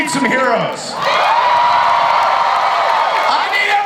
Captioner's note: audience cheers